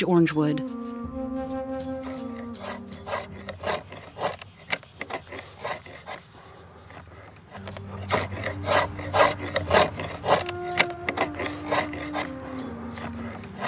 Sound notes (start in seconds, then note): 6.8 sawing sound